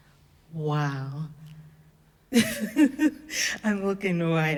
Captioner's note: laughs